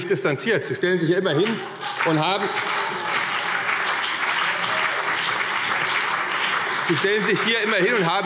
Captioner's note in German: Beifall CDU und BÜNDNIS 90/DIE GRÜNEN